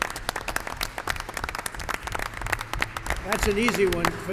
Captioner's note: applause